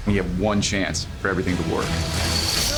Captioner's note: groans, shouts